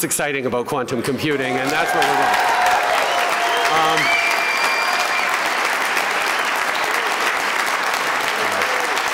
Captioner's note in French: Applaudissements, acclamations